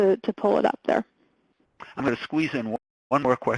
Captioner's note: voiceover